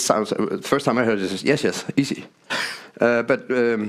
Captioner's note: chuckles